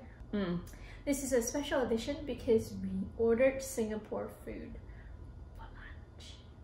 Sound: whispers

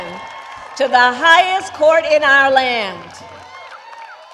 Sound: applause

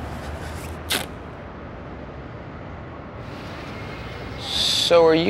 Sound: ripping tape sound

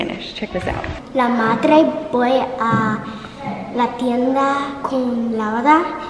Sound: speaking in foreign language

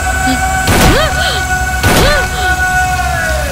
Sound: gunshot

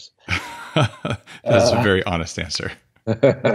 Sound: laughs

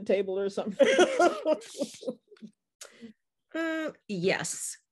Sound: laughing

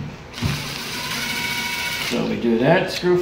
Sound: motor whirring

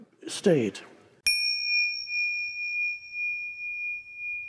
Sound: bell chimes

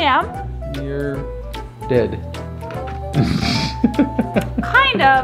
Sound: laughs

